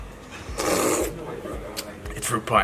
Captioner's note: slurping